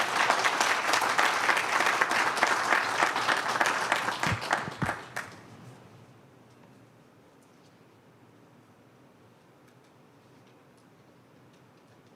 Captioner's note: applause